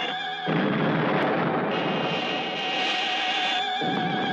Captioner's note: explosion booming